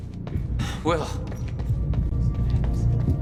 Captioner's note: breathing heavily